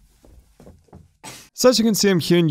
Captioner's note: feet shuffling